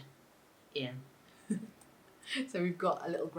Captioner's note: giggles